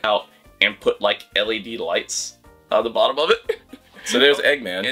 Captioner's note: laughs